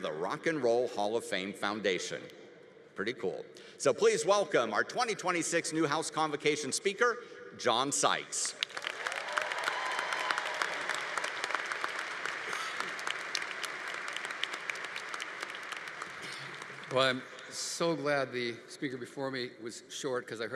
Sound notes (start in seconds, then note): 8.5 audience applauding; 8.7 audience cheering